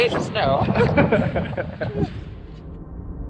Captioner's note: laughing